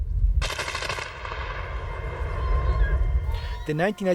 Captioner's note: gunfire echoing